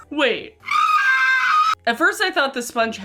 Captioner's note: woman screaming